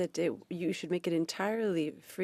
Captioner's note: speaking French